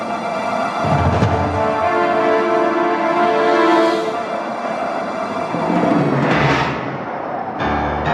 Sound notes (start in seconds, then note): 0.0 suspenseful music continues; 0.0 airplane roaring